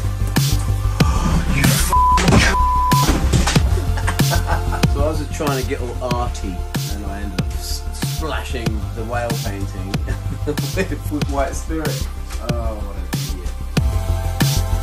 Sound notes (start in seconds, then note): 0.8 gasps; 3.5 laughs